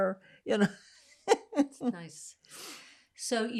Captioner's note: laughing